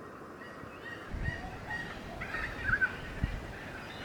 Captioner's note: birds calling